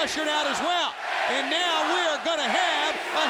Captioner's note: audience chanting